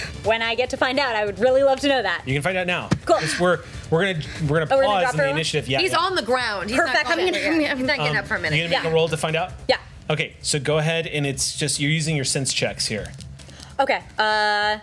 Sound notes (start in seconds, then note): none